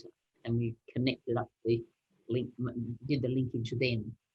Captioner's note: speaking faintly